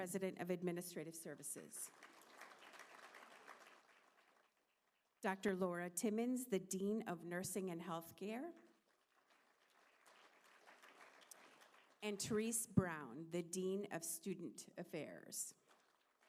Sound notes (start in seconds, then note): 1.7 applause